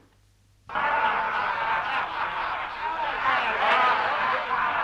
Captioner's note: chieftains laughing